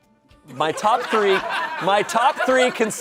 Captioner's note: audience laughing